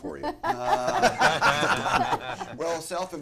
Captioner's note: laughter